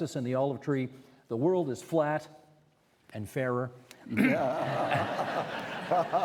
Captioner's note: clearing throat; all laughing